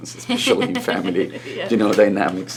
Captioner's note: laughs